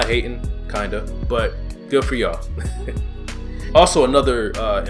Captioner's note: laughs